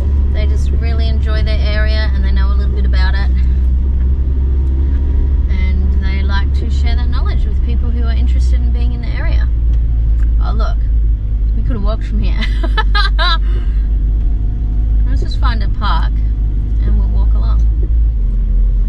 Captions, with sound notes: They just really enjoy their area, and they know a little bit about it, and they like to share their knowledge with people who are interested in being in the area. Oh, look. We could have walked from here. [laughs] Let's just find a park and we'll walk along.